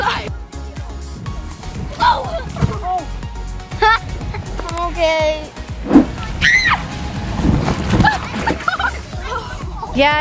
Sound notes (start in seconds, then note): 6.2 kids yelling; 7.8 kids laughing